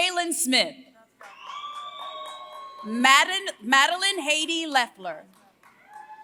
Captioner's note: applause; applause